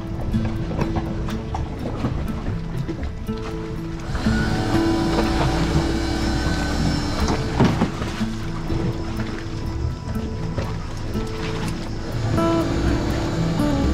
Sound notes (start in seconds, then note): 4.2 machine whirring